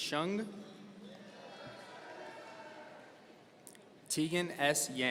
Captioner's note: audience cheering